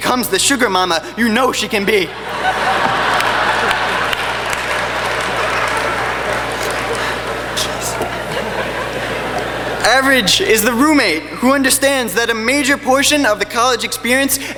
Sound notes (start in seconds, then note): 2.1 laughing